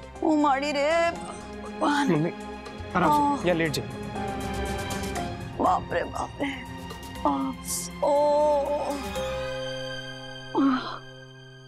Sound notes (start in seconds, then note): 7.1 moaning